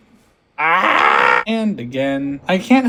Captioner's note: screaming